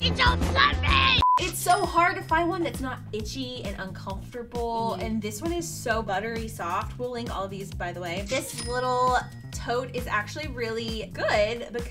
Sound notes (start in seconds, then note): 1.2 screen beeps